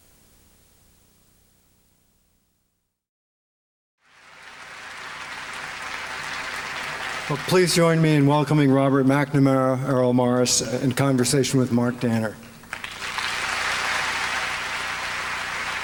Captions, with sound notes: [APPLAUSE] Well, please join me in welcoming Robert McNamara, Errol Morris in conversation with Mark Danner. [APPLAUSE]